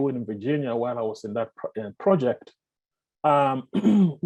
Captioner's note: clears throat